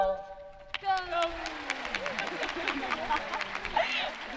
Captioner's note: audience clapping